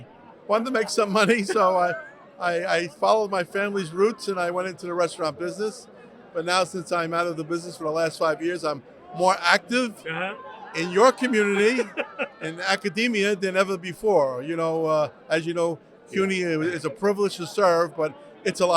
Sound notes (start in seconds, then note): 11.2 laughs